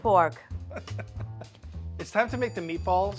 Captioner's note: laughing